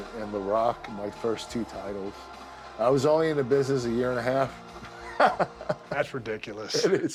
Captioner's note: laugh